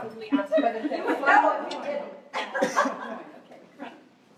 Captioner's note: laughter